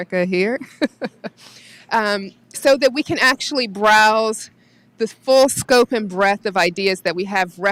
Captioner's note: laughs